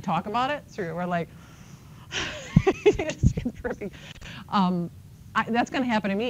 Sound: laughs

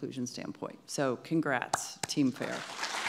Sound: clapping; audience clapping

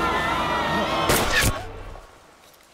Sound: gun shot

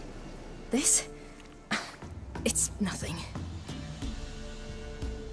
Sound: scoff

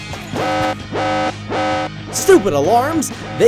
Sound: intense music; alarm wailing

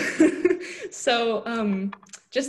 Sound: laughing

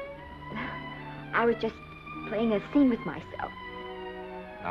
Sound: sighs

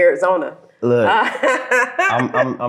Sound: laughs

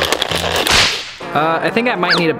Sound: crinkling; snap

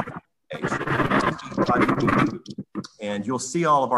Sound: audio crackling

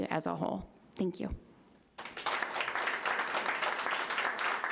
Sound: audience applauding

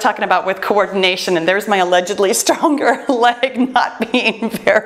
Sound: laughs

